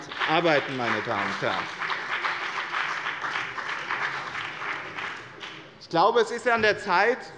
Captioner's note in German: Beifall bei dem BÜNDNIS 90/DIE GRÜNEN und der CDU